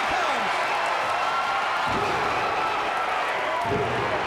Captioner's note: fans cheering